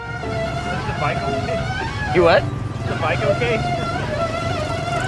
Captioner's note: squealing sound